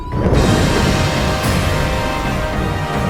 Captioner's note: lightning strikes; dramatic music